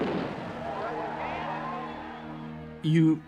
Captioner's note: explosion